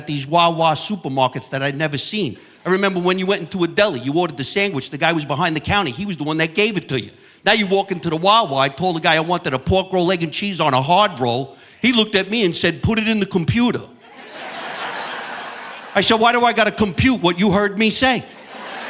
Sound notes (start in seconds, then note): 14.0 audience laughing; 18.2 audience laughing